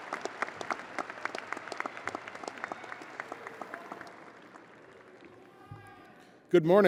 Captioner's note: audience applauding and cheering